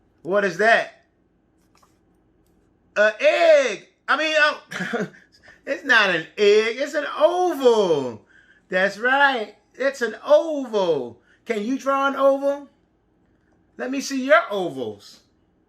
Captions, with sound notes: What is that? An egg, I mean (chuckles) it's not an egg, it's an oval, that's right, it's an oval. Can you draw an oval? Let me see your ovals.